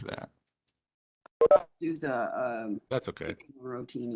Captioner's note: tone beeping